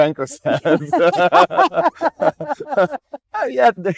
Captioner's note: laughing